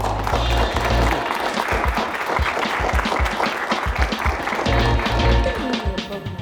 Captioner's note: applause; closing music